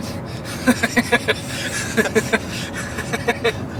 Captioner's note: laughing